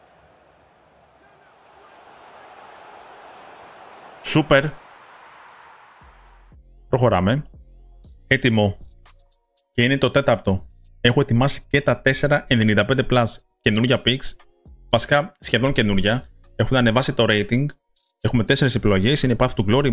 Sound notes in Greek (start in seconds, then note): 0.0 χειροκρότημα